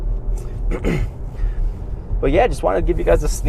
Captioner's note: clears throat